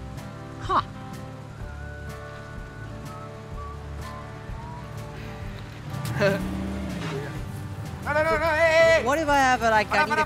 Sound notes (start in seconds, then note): 6.1 laughing